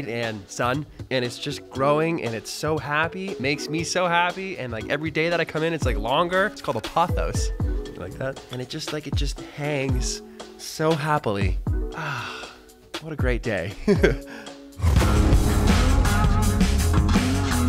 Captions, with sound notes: and sun, and it's just growing. It's so happy, makes me so happy. Everyday that I come in it's longer, it's called a pothos. You like that? And it just hangs so happily. Ah, what a great day. (laughs) (upbeat music)